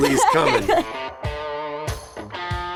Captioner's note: laughter